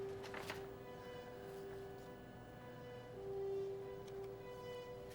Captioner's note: paper rustling; melancholic orchestral music continues